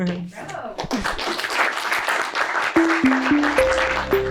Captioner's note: applause